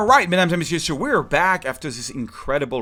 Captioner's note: speaking in French